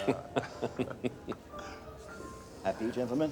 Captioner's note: people laughing